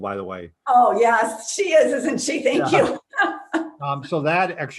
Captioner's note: laughs